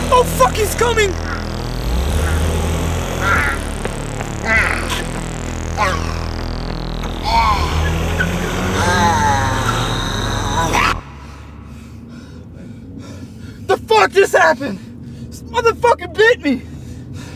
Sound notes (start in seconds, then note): 1.9 Jermaine growls; 4.5 scary music